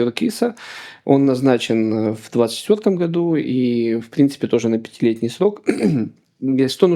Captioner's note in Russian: откашливается